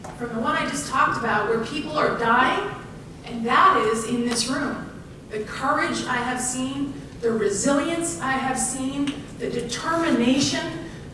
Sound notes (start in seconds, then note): none